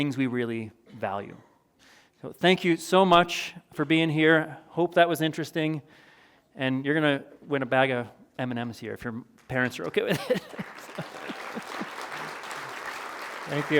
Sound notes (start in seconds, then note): 10.0 chuckles; 11.1 applause